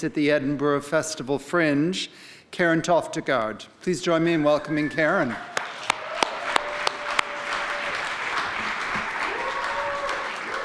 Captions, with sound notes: at the Edinburgh Festival Fringe, Karen Toftegaard. Please join me in welcoming Karen. (audience applauding)